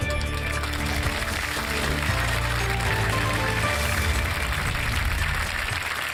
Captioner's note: applause